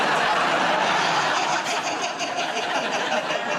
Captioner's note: laughter